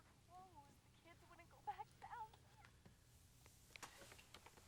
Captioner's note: woman on telephone fussing